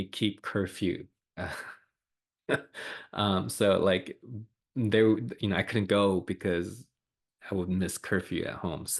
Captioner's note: laughs